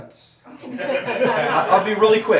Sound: audience laughing

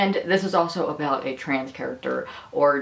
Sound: none

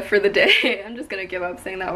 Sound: laughs

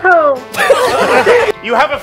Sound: laughs

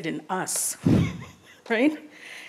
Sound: laughs

